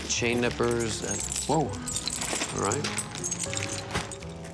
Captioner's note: chains clinking